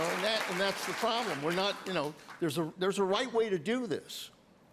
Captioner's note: applause